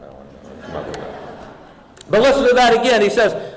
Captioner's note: audience laughing